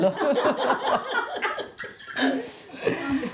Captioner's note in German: Sie lachen